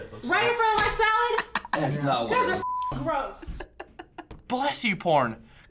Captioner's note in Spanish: pitido; risas